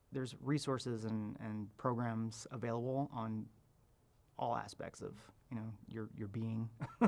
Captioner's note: chuckles